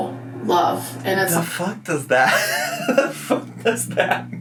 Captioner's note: laughs